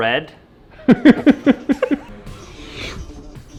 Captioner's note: laughs